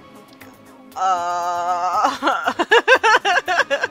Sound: laughs

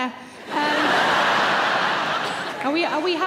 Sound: crowd laugh

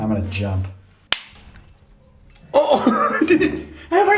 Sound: snapping

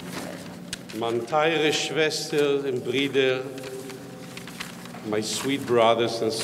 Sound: speaking in foreign language

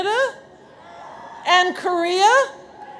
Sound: audience cheers

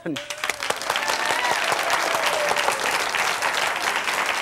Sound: audience claps

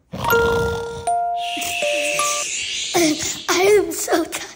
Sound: snores

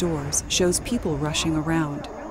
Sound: sustained rattling; loud static

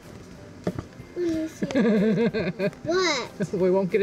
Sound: laughing

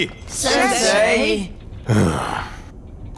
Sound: groaning

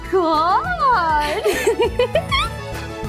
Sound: laughing

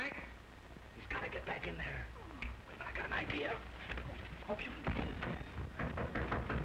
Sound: knocking on door

